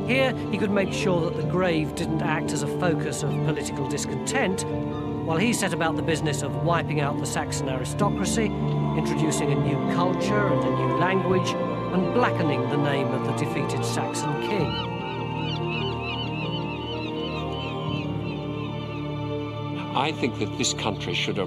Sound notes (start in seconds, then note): 13.8 birds shrieking; 15.0 suspenseful music